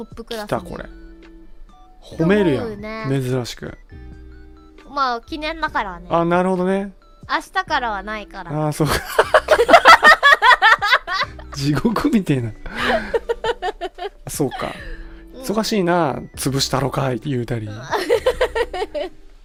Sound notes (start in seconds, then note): 8.8 both laughs; 8.9 laughs; 12.7 Matsuri laughs; 17.8 Matsuri laughs